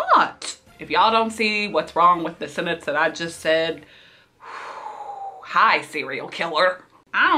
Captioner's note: sighs